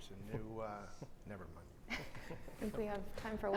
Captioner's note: both chuckles